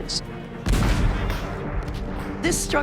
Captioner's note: cannon booms